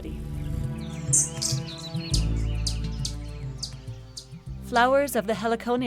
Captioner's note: birds chirping